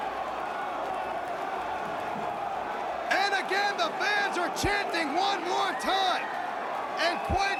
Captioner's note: crowd cheering